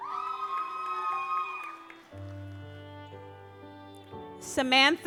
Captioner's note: audience applauds